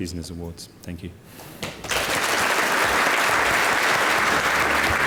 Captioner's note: applause